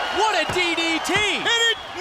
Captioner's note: crowd cheering